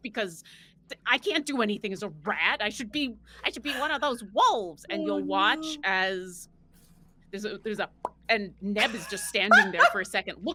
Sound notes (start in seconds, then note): 6.9 popping mouth